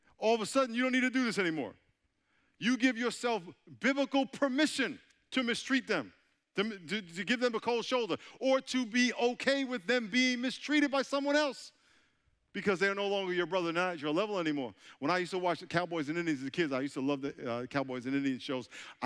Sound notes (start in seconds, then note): none